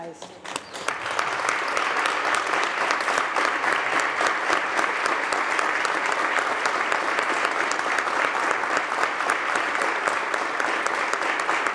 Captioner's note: applause